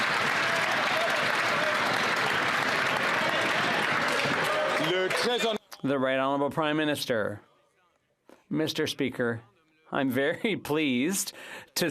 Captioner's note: some Applause